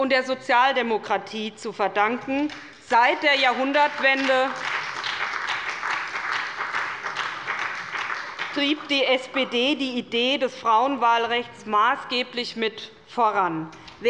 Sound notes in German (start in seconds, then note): 3.4 Beifall bei der SPD und dem BÜNDNIS 90/DIE GRÜNEN